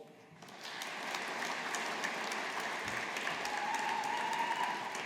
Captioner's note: audience applauding